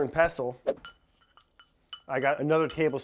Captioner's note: swift whooshing; metal clinking